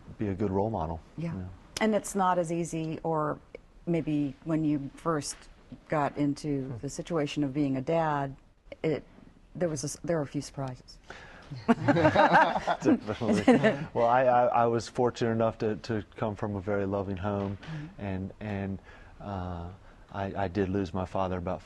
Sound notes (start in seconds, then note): 11.6 laughter